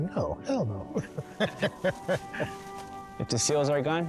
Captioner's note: laughing